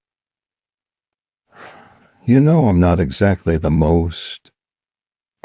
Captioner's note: sighs